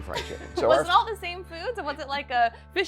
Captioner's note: laughing